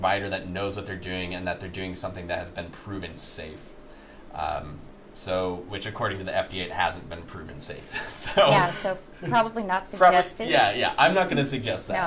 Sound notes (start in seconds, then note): 8.0 laughs